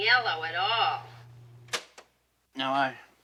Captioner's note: stop button clicks